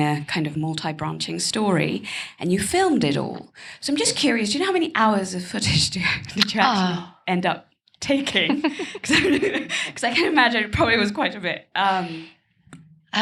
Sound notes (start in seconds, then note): 8.3 laughs